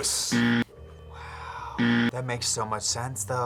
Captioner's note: buzzer rings